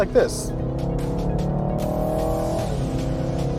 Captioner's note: engine revving